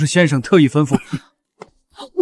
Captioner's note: cough cough